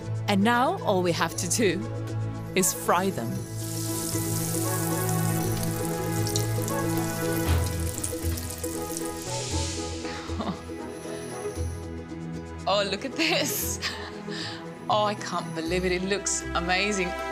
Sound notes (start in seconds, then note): 2.7 oil sizzles; 3.8 lively music